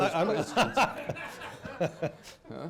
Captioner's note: laughter